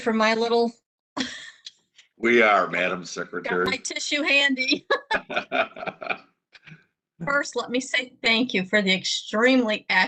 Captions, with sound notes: Are you ready for my little (Laughs) I've got my tissue handy. First let me say thank you for the extremely accurate